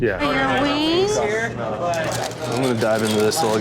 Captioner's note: paper crinkling